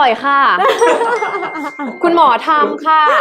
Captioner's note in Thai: เสียงหัวเราะ